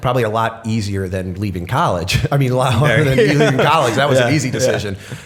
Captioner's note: laughter